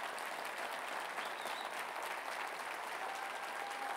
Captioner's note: applause; whistling